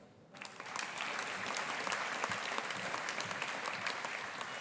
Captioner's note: audience applauding